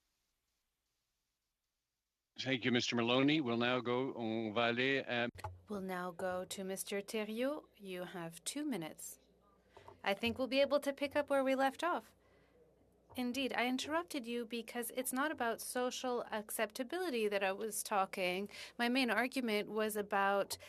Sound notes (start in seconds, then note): 13.9 speaking French